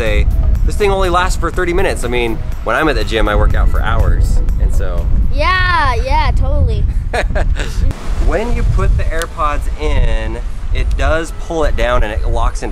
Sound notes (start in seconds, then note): 6.9 laughs